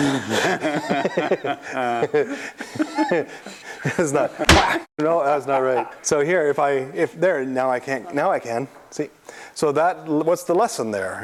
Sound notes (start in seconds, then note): 0.0 laughter; 4.4 whack